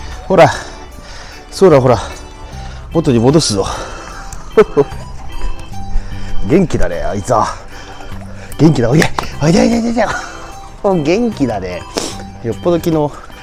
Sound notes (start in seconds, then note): 4.4 laughs